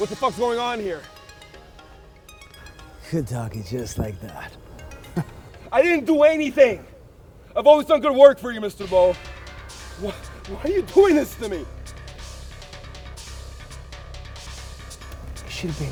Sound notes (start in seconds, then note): 1.6 dramatic music; 4.9 Mr. Boll laughing; 12.3 dramatic music